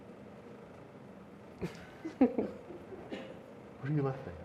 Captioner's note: laughter